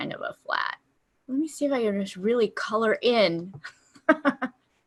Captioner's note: laughter